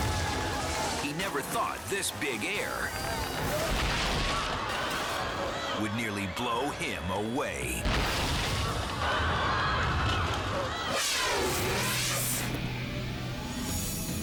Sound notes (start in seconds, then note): 3.0 crowd screaming; 3.0 surfer crashing; 8.0 crowd screaming; 8.1 surfer crashing; 11.1 dramatic music